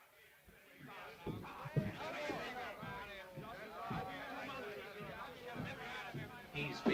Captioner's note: men chattering